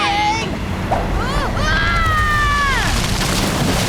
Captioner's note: grunting, screaming; splashing